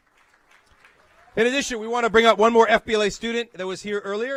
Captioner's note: applause